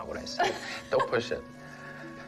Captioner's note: laughs